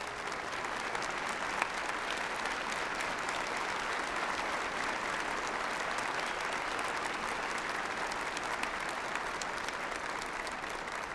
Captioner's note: applause